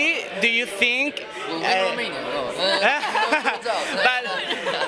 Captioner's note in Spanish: risas